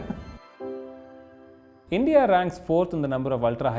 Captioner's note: laughs